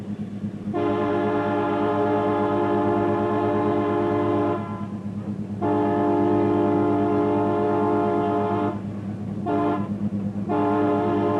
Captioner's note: train Whistle